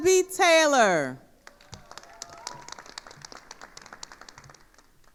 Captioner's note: attendees applauding